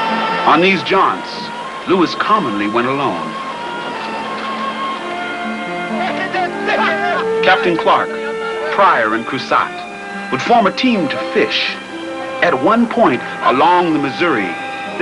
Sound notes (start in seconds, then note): 5.7 shouting and laughing